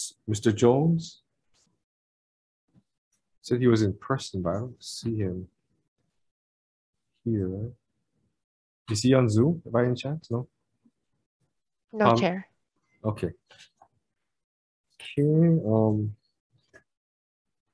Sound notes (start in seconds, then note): none